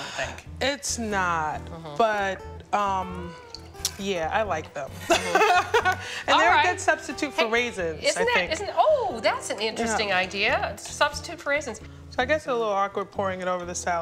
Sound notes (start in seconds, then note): 4.8 laughing